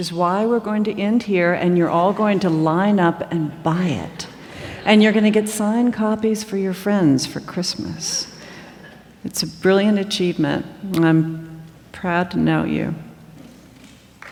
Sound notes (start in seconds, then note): 4.2 subdued laughter